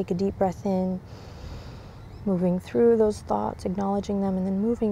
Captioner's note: takes deep breath